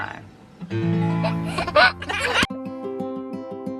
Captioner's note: laughs; gentle music